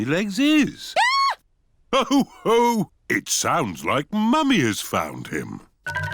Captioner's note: mummy pig screams